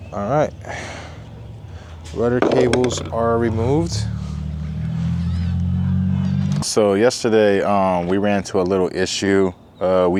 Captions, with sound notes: All right, rudder cables are removed. (wood clunking) So yesterday we ran into a little issue.